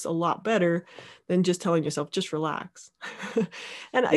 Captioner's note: laughs